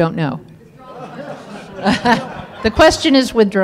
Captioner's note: audience laughs